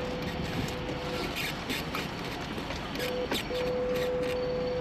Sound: wheels squeaking

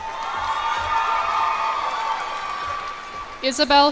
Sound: cheers and applause

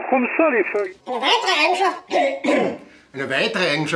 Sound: clears throat

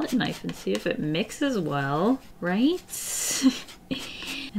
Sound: laughs

